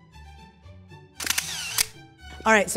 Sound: camera clicking

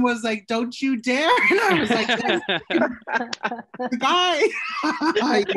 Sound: laughter

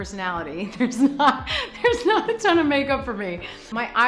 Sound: laughs

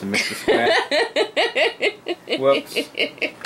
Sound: laughing

